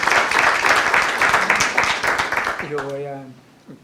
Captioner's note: aplausos